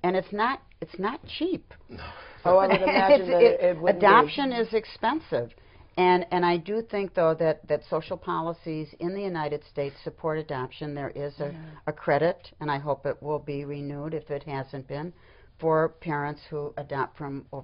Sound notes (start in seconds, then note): 2.6 laughter